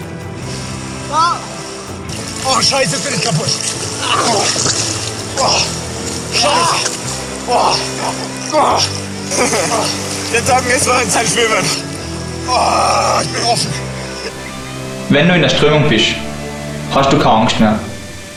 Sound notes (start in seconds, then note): 9.2 laugh